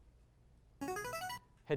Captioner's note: signaling device tone